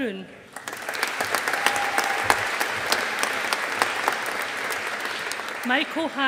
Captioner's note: audience applauding